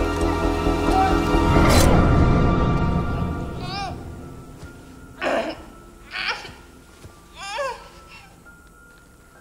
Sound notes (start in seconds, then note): 1.7 blades scrape